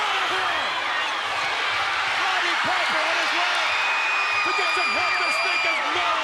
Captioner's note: crowd clamoring